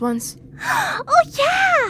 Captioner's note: gasps